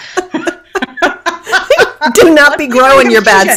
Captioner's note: laughing